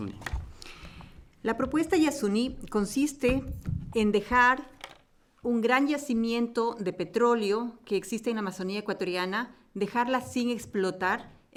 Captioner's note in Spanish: Español